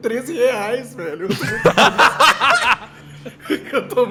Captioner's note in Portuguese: Todos riem